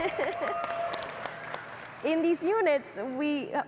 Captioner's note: chuckles; audience clapping and cheering